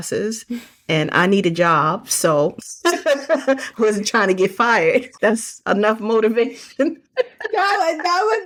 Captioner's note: chuckling & Laughing